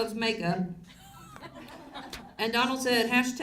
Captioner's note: audience laughs